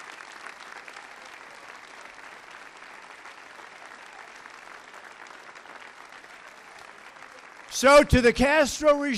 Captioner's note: applause